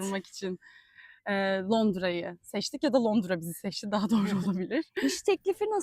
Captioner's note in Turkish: kahkaha